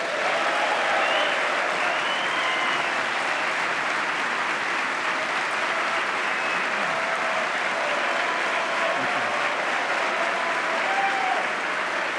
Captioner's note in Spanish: aplauso